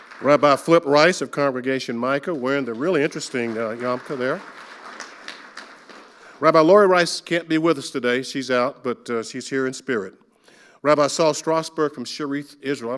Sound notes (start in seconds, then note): 0.0 audience applauding; 4.5 audience applauding